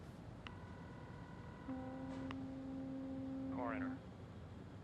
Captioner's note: line trilling; boat horn blaring